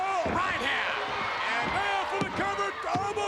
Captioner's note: spectators cheering